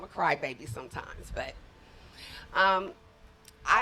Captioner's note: none